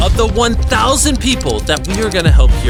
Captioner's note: shutter clicking